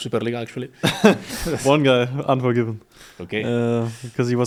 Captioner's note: laughs